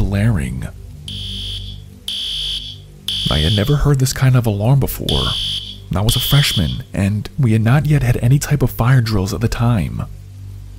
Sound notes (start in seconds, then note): 1.0 alarms going off